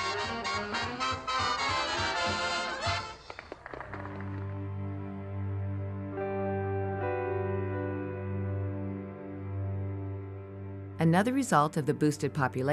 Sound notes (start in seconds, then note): 0.0 lively orchestra music; 3.5 people applaud; 5.6 somber music